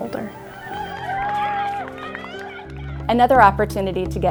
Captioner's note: children screaming